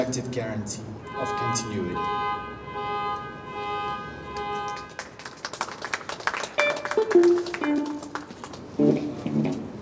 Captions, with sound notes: guarantee of continuity. [clapping]